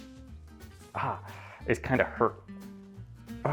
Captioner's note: grunts